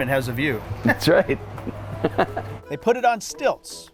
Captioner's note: laughs